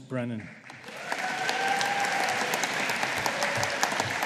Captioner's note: audience applauding